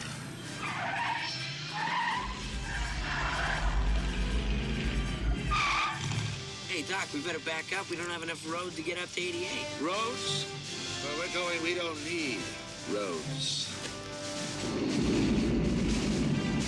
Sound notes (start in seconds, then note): 0.0 tires squealing; 4.5 engine revs; 4.5 tires screeching; 13.8 whirring